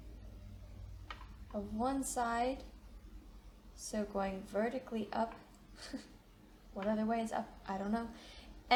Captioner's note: chuckles